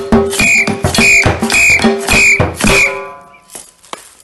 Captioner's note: five whistling sounds